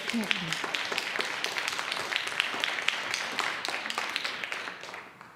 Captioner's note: audience applauds